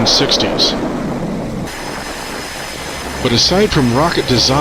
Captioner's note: rocket roaring